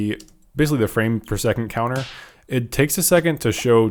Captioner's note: hand slap